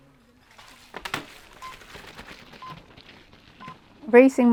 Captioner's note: start gate beeping